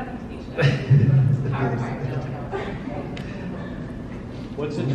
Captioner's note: laughs